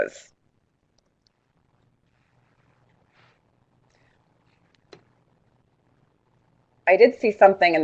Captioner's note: no sound - waiting for comments